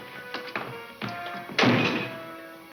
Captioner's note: door slams